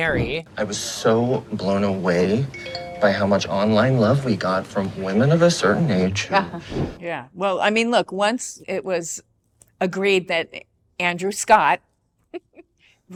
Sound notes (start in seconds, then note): 6.1 scoffs; 12.1 laughs